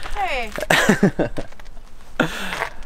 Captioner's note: laughing